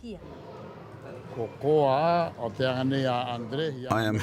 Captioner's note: speaking Rapanui